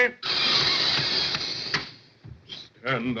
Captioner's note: inhales loudly